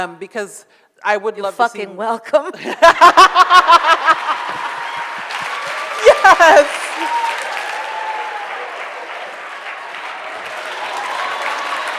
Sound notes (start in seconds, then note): 2.8 audience laughs; 3.3 audience cheers